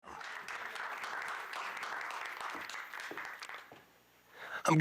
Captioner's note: audience clapping